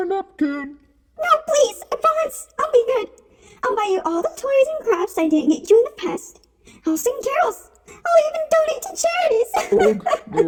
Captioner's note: crying